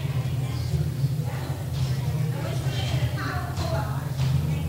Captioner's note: people talking